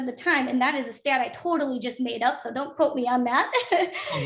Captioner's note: chuckles